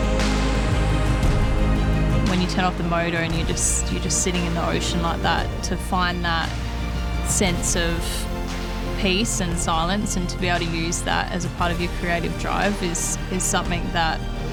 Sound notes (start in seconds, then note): 1.6 engine revving